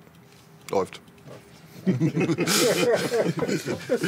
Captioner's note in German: Alle lachen